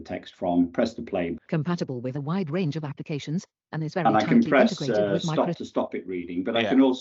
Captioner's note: computer speaks